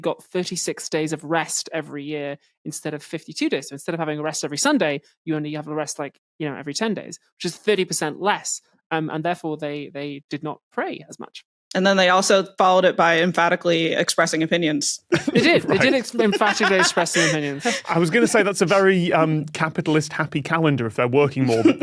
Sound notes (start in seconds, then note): 15.1 laughs